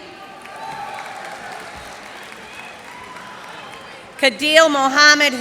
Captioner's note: cheers and applause